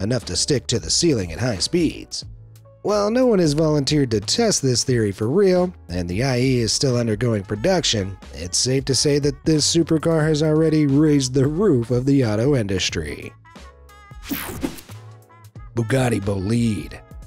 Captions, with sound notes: enough to stick to the ceiling at high speeds. While no one has volunteered to test this theory for real and the IE is still undergoing production, it's safe to say that this supercar has already raised the roof of the auto industry. (swooshes) Bugatti Bolide.